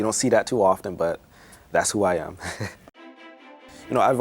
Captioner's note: laughs